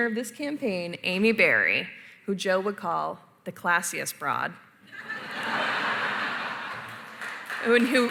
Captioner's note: laughter